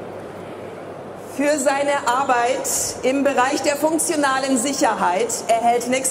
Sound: speaking in foreign language

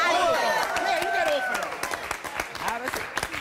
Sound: applause

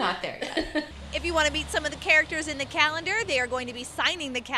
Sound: laughter

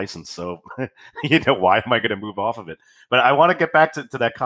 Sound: laughs

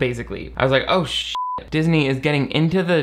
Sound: beep

